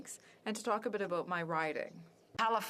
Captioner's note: speaking French